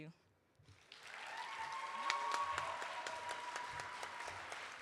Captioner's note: audience cheering